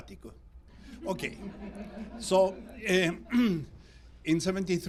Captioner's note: audience laughs